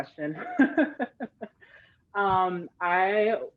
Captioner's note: laughing